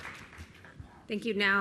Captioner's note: applause